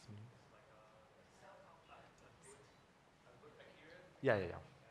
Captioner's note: faintly speaking